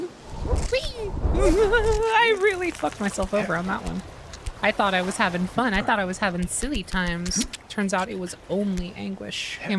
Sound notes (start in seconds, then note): 0.0 fear Noises